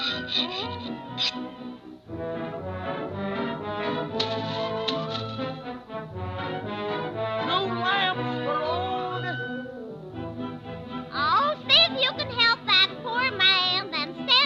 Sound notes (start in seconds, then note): 1.2 file scraping; 4.2 paint slopping